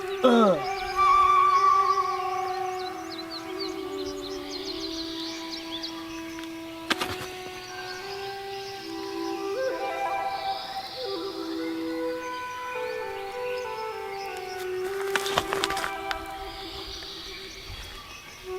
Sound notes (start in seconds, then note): 3.3 birds chirping; 6.9 hand slapping; 8.5 gentle music